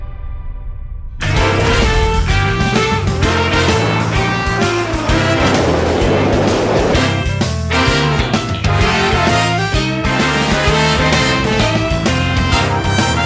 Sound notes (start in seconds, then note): 1.5 upbeat jazzy music; 5.6 train chugging